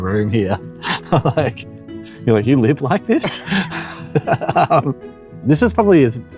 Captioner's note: laughs